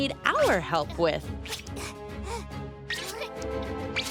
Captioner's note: caterpillar noises